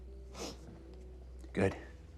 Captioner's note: Tyler sniffs